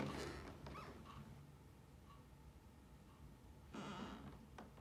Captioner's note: floor creaking